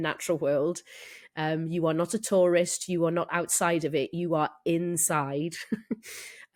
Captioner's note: laughs